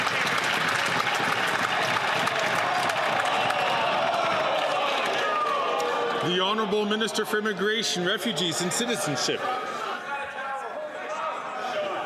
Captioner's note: some Applause